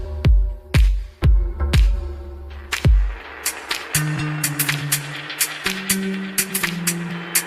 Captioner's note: applause